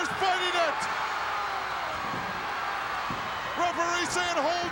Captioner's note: crowd cheering